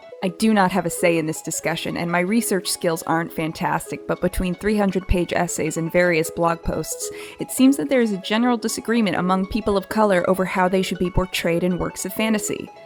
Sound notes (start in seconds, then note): none